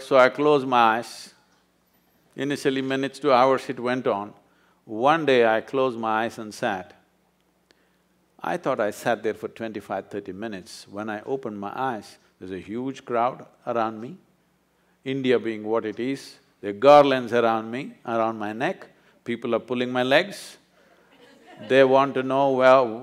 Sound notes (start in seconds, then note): 20.8 few laugh